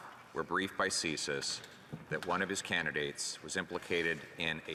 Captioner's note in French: voix de l'interprète